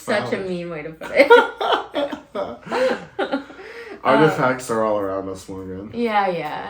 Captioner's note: laugh